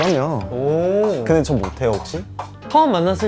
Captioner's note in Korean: 한국말